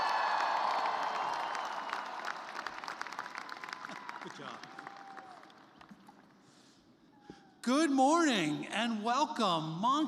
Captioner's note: cheers and applause